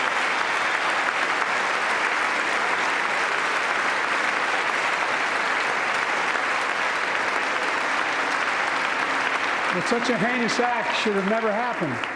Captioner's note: applause